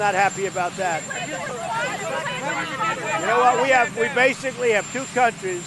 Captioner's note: people Chattering